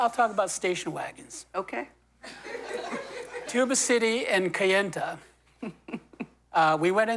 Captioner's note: laughter